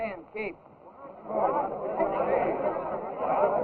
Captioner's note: chattering